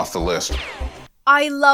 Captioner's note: bullet ricochets